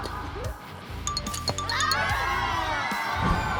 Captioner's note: rackets clashed